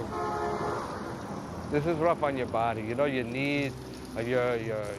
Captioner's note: car horn honks